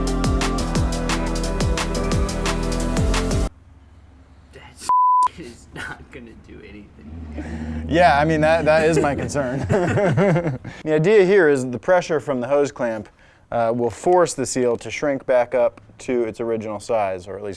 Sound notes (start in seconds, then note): 4.9 beep; 8.5 laughter